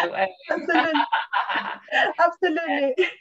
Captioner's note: laughs